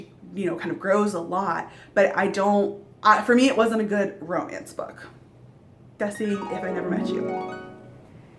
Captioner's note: dream sounds